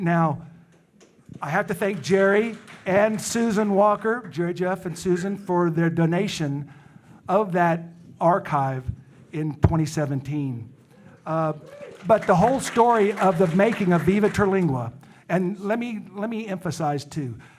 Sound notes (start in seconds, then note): 11.4 audience cheering; 11.4 audience applauding